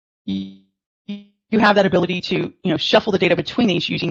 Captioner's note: audio distortion